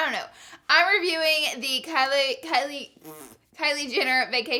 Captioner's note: blows